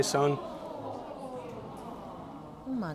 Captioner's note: audience murmurs